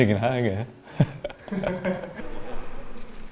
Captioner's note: laughs